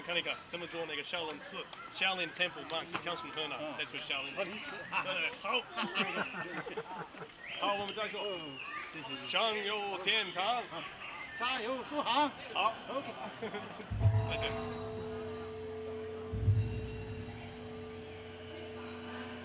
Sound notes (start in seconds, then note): 7.2 conversation ends, laughter